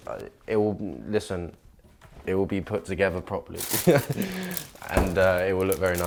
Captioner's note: laughs